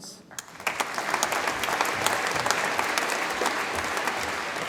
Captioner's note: audience applauds